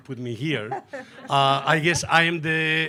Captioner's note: laughing